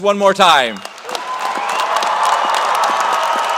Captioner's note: cheers and applause